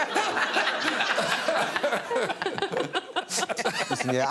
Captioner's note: laughing